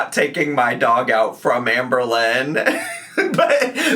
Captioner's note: laughs